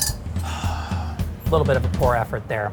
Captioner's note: sighs